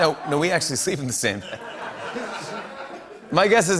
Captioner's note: laughter